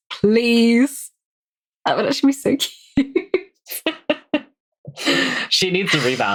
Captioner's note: laughing